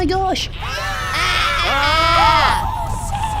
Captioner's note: everyone screams